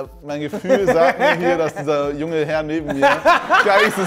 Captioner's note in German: Lachen